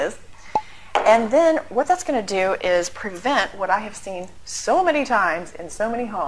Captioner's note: pop